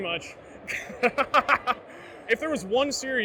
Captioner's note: laughs